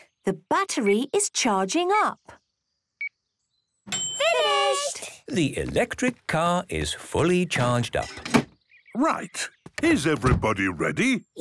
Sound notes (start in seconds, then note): 3.9 dings